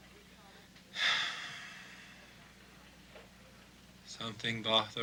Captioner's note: Casey sighs